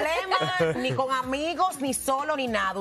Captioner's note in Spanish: risas